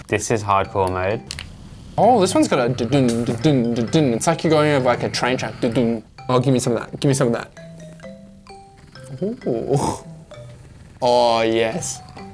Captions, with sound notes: - This is hardcore mode. - Oh this one-- (impersonating vibrations) It's like you're going over like a train track. (impersonating vibrations) Oh give me some of that, give me some of that. Ohh, ohh yes.